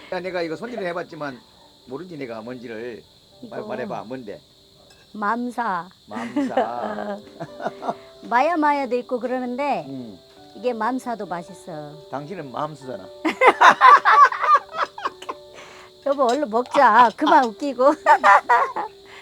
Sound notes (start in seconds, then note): 13.2 both laughing